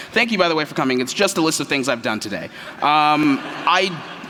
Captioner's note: laughter